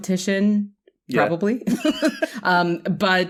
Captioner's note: laughter